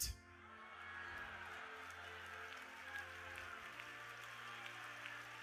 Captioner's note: audience cheering